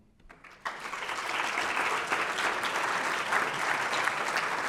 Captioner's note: audience clapping